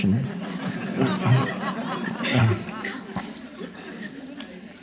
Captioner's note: audience laughing